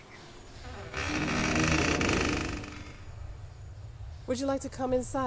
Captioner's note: door creaks